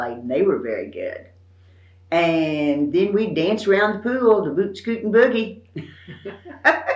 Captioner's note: laughs